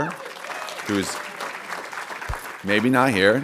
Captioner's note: audience cheering and applauding